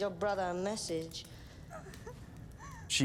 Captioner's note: cries